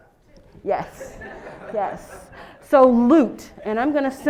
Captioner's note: laugh